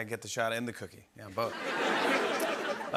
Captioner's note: laughter